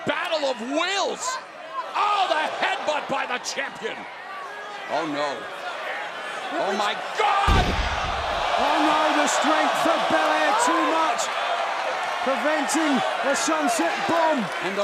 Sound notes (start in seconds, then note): 9.2 crowd cheering